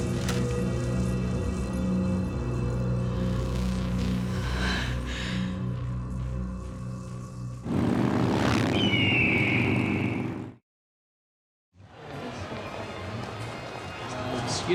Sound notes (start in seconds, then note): 10.1 bird shrieks; 10.1 motorbikes roaring; 12.4 people chattering